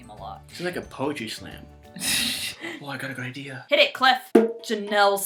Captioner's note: laughs; drumming